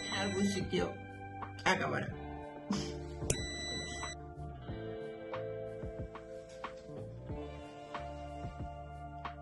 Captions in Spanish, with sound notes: ... algún sitio acabará! (sonido: piiiiiii)